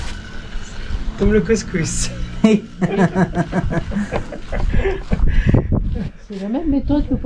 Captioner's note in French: rigole